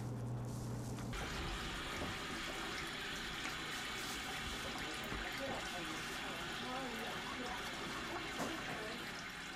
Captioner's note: water running